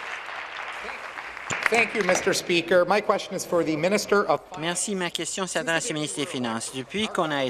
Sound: applause

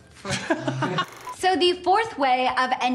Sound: laughing

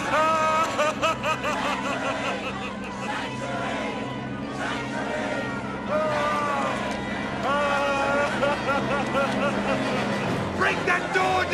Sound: wailing

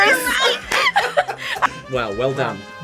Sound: both laugh

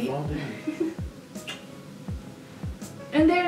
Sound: smooch

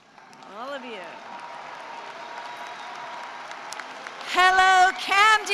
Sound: cheering and applause

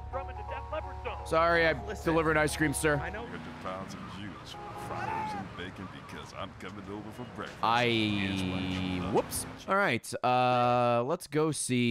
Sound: screams

